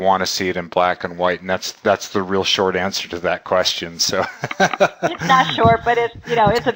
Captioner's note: laughing